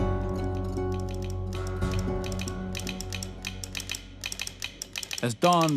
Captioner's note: telegraph key clicking